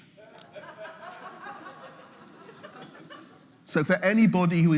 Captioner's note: audience laughing